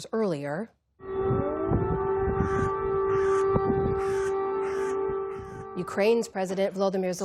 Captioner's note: sirens blaring